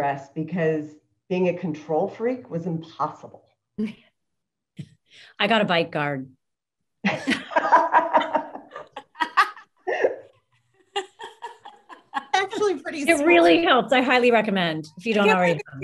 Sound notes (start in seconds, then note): 7.1 panel laughs